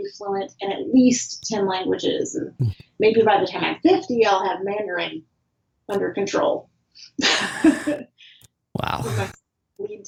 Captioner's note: laughs